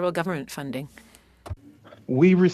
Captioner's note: speaking French